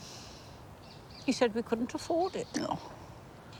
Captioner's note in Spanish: se burla